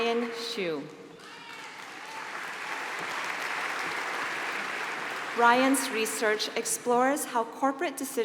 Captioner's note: applause